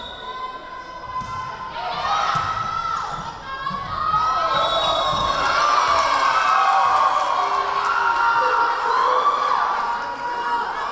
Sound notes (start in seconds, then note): 0.0 whistle blowing; 2.5 yelling; 4.5 whistle blowing; 5.4 cheering